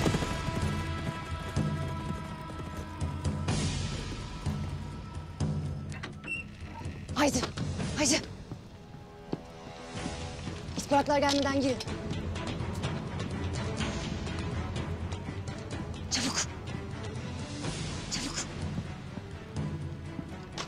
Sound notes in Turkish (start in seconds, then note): 5.8 Kapı açılıyor